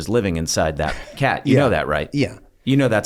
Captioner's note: laughs